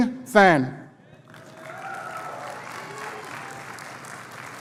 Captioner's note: applause